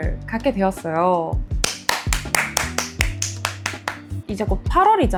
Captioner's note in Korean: 와!! 짝짝짝